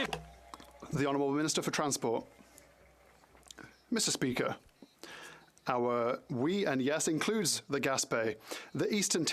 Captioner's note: some Applause